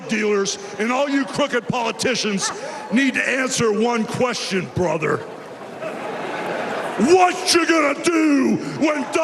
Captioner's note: cheers and applause